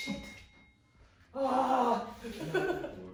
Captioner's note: woman growls; all laughing